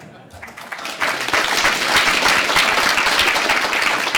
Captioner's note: laughter; applause